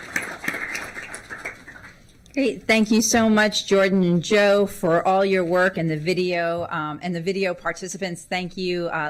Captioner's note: applause